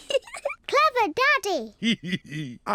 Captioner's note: giggles; giggles